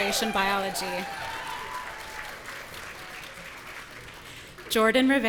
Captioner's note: audience cheering